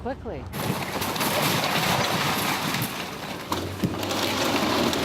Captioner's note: breaking rubble